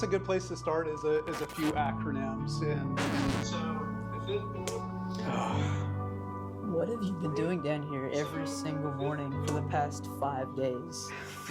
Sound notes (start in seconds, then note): 3.0 record scratch